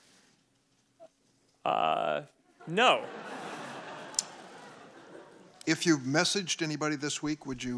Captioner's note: laughter